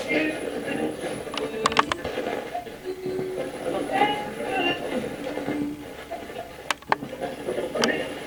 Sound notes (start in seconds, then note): 0.0 radio channel changing